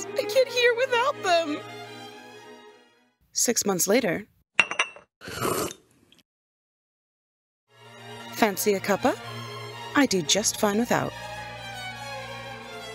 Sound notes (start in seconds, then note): 5.2 slurp